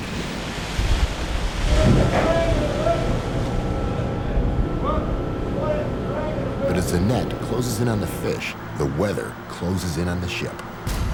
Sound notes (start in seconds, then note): 0.1 splashing; 2.5 crew shouting